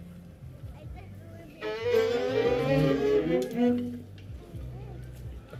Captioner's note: children chattering